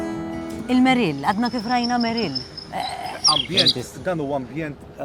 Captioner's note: bird chirping